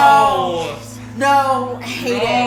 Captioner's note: various statements of "No!"